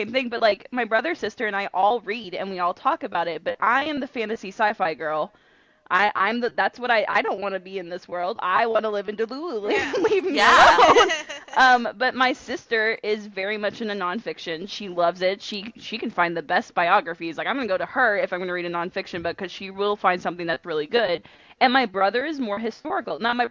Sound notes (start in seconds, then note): 9.7 laughter